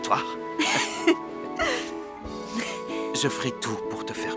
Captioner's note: chuckling